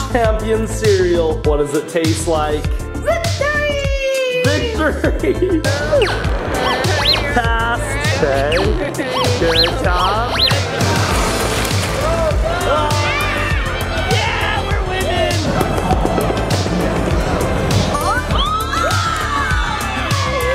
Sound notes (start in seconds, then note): 6.6 device beeping; 11.0 toy cars clattering; 17.9 people clamoring and clapping